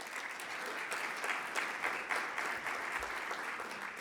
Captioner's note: audience clapping